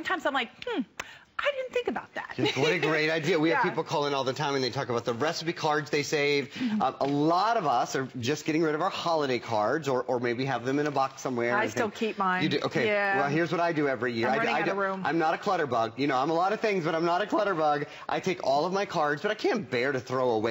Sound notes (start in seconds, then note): 2.4 laughter